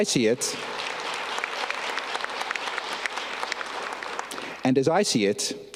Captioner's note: audience clapping